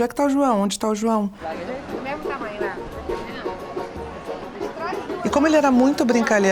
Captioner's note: party guests chatting